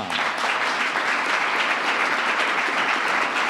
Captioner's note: applause